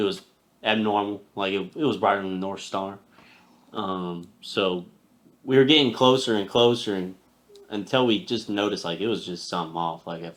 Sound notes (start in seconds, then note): none